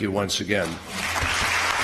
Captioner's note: applause